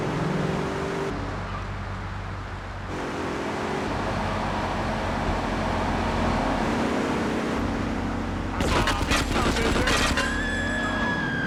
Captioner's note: sirens wailing; screaming